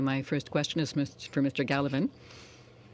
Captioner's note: speaking French